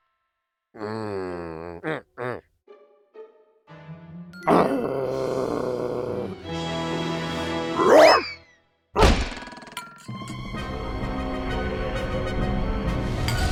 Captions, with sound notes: MM. MM, MM. (growling) RAWR! (triumphant music) ? ?